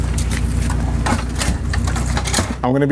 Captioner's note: metal clunking